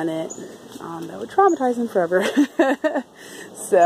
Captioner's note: laughs